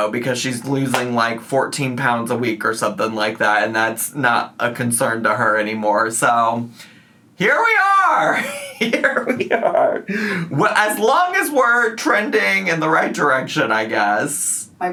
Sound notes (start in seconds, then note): 8.3 laughs